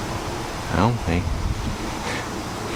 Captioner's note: whisper